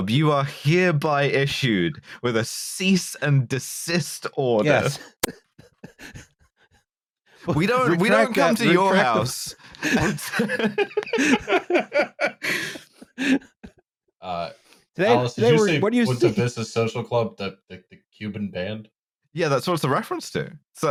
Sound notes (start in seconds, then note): 4.9 laughter; 12.5 dies laughing